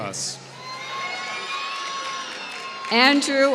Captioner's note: applause